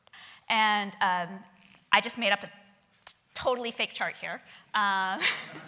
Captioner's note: laughing